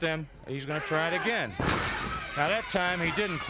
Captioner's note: body thudding